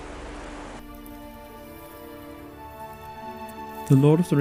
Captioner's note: whistling grass